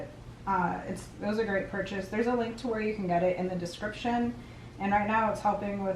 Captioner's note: none